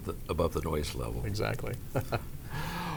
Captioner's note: laughs